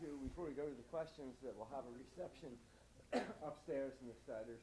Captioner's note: speaking faintly